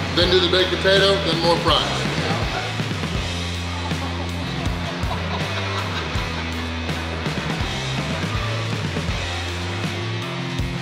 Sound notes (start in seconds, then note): 3.0 robust rock music; 5.2 background laughing; 7.6 robust rock music